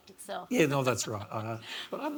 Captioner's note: laughs